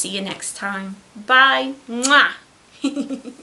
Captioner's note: giggles